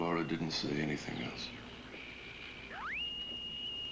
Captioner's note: radio squeaks